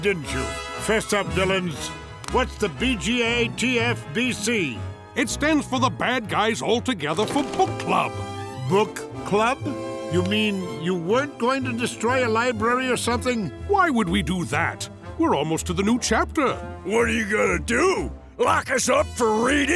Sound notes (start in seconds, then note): none